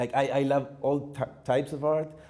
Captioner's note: none